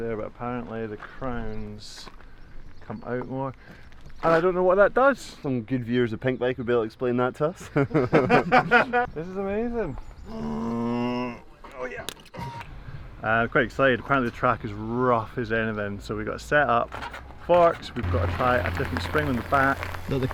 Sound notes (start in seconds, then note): 7.6 group laughing; 10.3 grunting